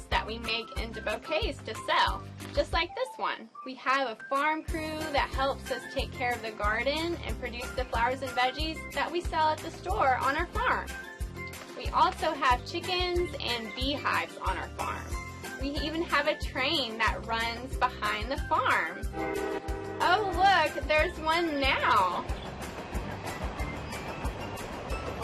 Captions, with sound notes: that we make into bouquets to sell, just like this one. We have a farm crew that helps us take care of the garden and produce the flowers and veggies that we sell at the store on our farm. We also have chickens and beehives on our farm. We even have a train that runs behind the farm. (train honking) Oh look, there's one now. (train running)